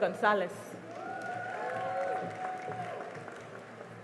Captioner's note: cheering and applause